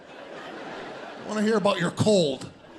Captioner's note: audience laughs